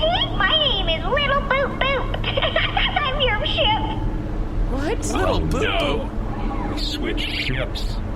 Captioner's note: giggles